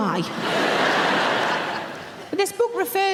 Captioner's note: audience laughing